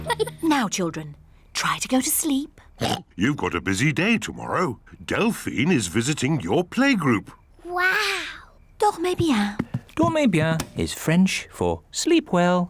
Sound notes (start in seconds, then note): 2.8 oinks